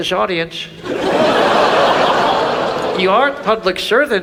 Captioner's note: audience laughs